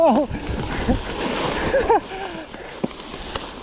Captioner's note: laughs